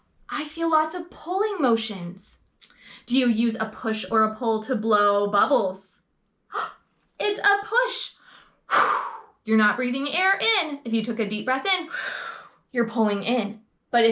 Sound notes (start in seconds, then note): 8.6 blowing air